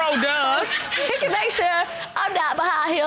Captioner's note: audience laughing